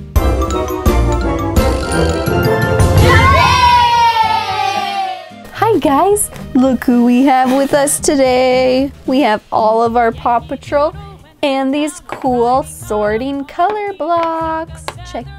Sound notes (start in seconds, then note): 0.2 lively music; 2.8 children cheering